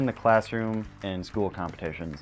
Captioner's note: applause